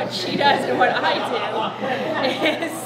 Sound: group laughing

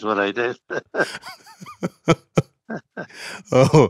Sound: both laugh

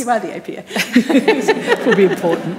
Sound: panellists laughing

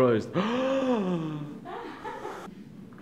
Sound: gasps

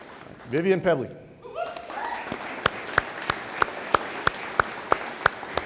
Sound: audience applauding

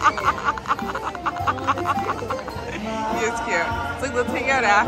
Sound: laughter

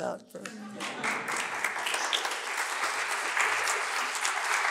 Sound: applause

